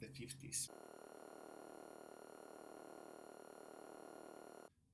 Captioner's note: high pitched computer noise